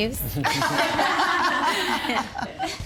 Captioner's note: laughter